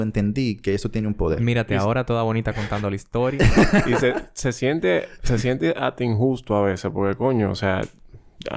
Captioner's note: laughs